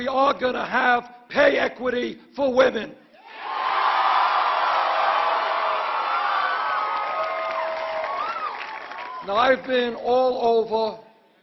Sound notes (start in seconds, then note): 2.2 applause